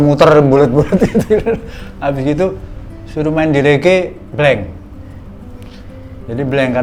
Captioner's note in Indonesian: tertawa